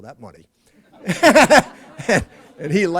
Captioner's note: laughter